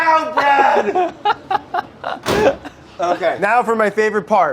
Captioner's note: laughing